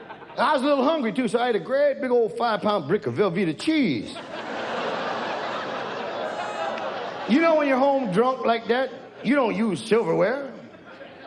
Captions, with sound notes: I was a little hungry, too, so I ate a great big old five pound brick of Velveeta cheese. (audience jeers) You know when you're home drunk like that, you don't use silverware.